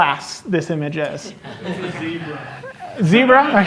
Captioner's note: laughter